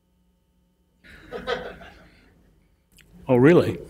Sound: laughter

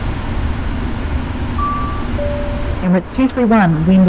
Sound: CABIN READY chime

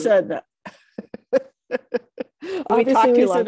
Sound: laughs

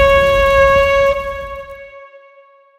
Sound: flames; shofar blast

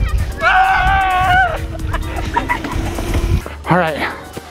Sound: guys screaming

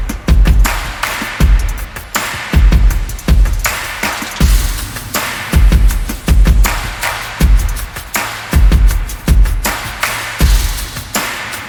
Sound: applause

